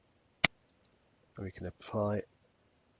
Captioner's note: mouse clicking